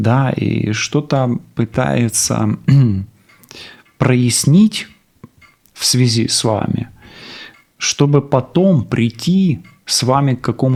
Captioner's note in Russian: откашливается